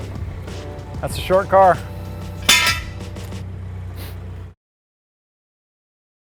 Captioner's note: metallic clanking